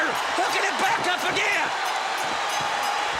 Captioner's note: crowd cheering